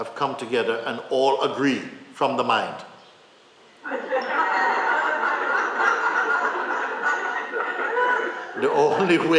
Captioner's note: laughter